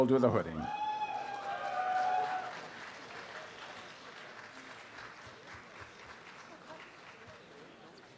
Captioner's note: audience applause